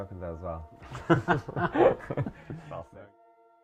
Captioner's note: laughing